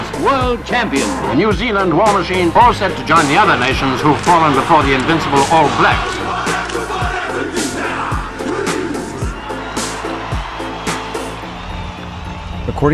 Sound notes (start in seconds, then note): 6.4 chanting in foreign language; 6.4 synth music; 9.7 crowd cheering